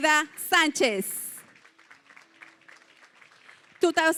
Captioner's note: applause